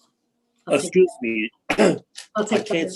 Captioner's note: clears throat